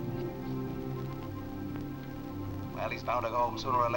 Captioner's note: on phone